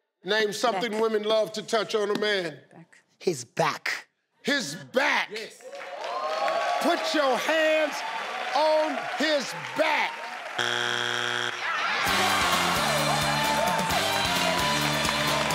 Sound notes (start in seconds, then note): 5.9 crowd cheers; 10.5 buzzer beeps; 11.9 upbeat music; 12.0 crowd cheers